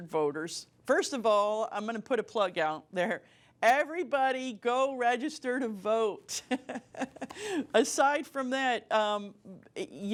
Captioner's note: laughter